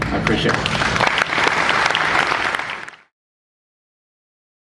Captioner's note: applause